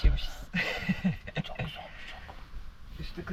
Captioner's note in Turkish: kahkaha